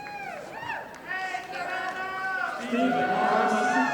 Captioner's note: audience applauding